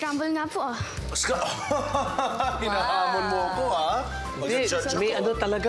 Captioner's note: chuckles